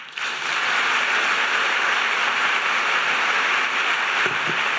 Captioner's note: crowd applauding